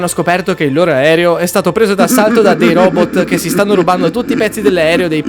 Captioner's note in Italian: risate